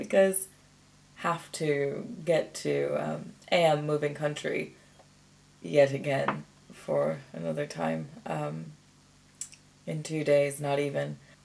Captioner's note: clicks tongue